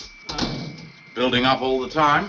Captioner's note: door banging